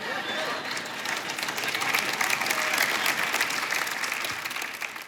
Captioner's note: audience applauds